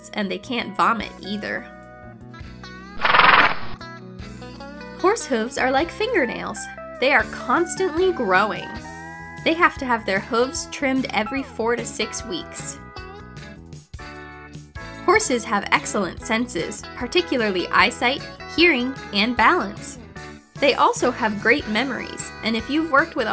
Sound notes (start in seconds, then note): 3.2 horse snorting